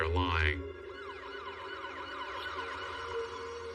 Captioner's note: sirens wawailing